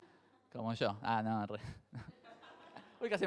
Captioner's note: jokingly; crowd laughs